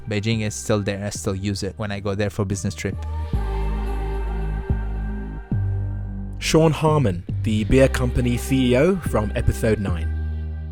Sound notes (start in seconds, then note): 3.7 voiceover